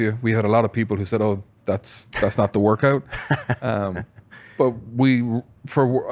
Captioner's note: laughs